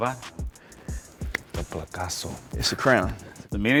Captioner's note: speaks in a foreign language